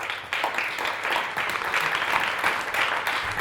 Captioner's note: applause